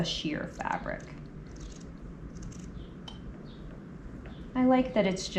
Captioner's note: scissors snipping